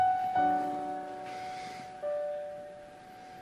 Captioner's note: sighs